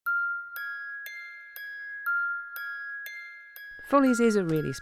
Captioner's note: bells chiming gently